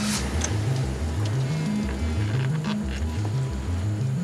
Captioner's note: cell phone buzzes